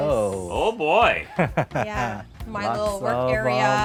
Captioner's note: laughing